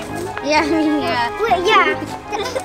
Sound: giggling

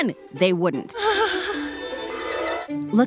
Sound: sighing

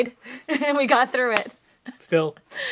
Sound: laugh

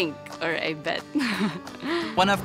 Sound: laughs

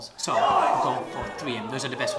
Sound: exclaims

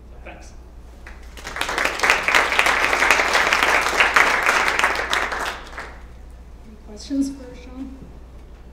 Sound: applause

